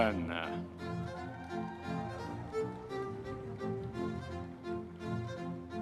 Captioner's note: audience members cheering